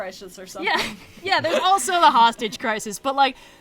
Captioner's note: laughs